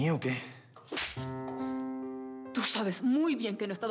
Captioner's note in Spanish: bofetada